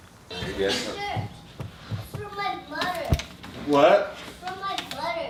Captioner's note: laughing; children banging